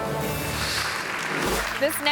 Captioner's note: audience claps